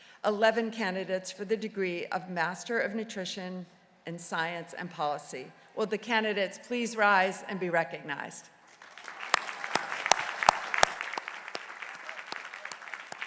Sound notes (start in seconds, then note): 8.7 crowd applauding